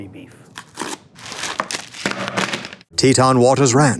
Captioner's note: plastic crinkling; paper rustling